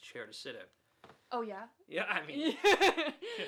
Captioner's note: laughs